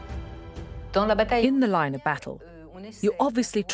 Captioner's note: voiceover